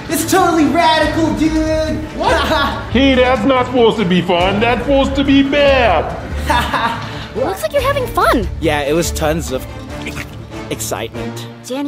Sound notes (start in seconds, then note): 2.1 laughing; 6.3 laughs